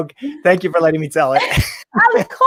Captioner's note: laughs